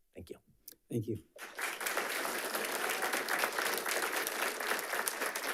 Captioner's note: audience applauding